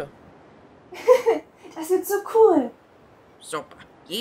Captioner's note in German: kichern